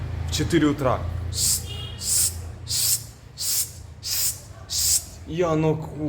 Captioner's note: imitates the sounds of a broom